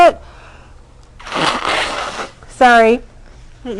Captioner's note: blowing nose